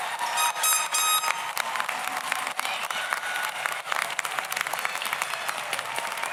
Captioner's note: audience cheers; air horn honks